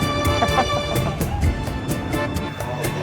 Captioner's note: laugh